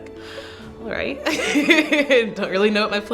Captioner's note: laughs